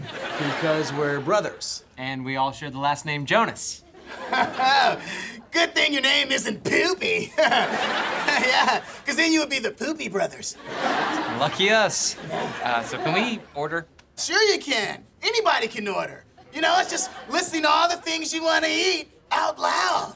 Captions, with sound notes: - Because we're brothers. - And we all share the last name Jonas. [laughing] Good thing your name isn't Poopy! Yeah, 'cause then you would be The Poopy Brothers. Lucky us! Er, so can we order? Sure you can, anybody can order! You know, it's just listing all the things you wanna eat out loud.